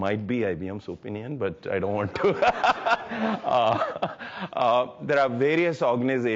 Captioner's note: laughs